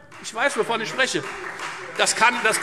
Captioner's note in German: Beifall Freie Demokraten und vereinzelt AfD